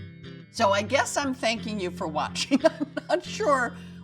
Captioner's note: laughs